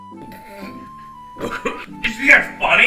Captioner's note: chokes; laughs